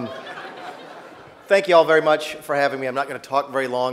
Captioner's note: laughter